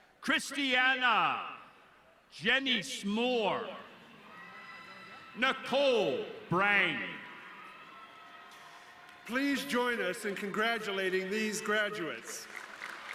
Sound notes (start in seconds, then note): 8.2 audience cheering